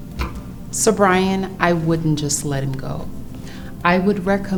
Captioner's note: tapping table